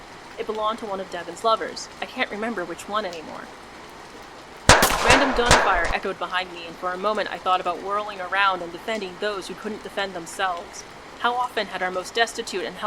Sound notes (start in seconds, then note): 4.6 sporadic gunfire